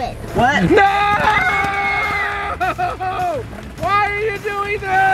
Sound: children screaming

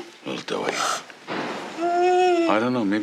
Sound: whimpering

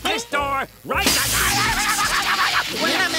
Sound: screaming

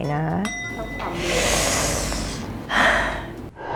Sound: เสียงถอนหายใจ; sigh

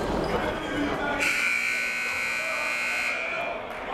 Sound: buzzer

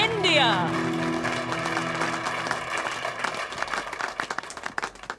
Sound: applause

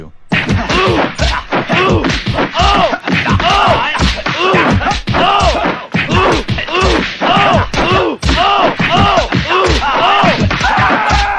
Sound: slapping and grunting; screaming

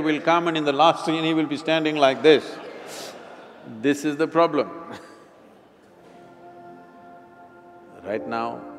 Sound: laughter

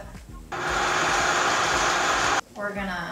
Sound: blender whirring

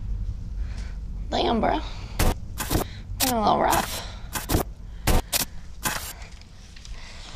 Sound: static noise

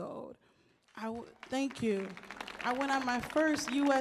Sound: audience applauds

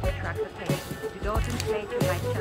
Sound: bubbly jazz music continues; seatbelt whooshes and clicks

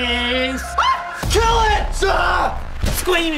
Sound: squeals

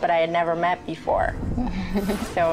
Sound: chuckles

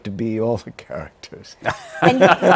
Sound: laughter

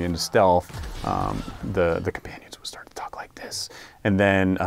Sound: whispering; speaking normally

